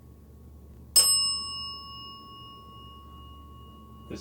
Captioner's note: bell dings